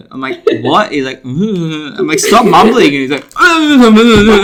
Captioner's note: louder mumbling